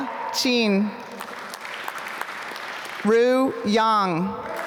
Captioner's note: applause